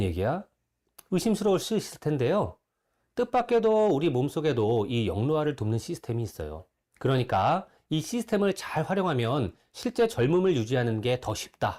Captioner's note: voiceover